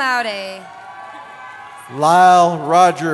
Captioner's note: cheering